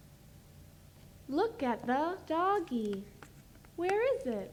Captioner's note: voiceover